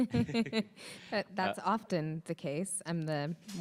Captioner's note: chuckles